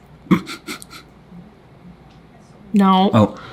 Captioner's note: sniffing